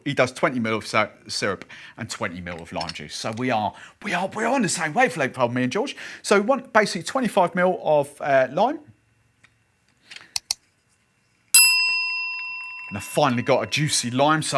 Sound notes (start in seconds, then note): 10.3 mouse clicks; 11.5 bell rings